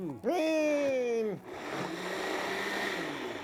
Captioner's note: exclaims; blender whirring